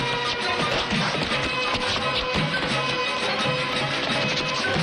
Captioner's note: crash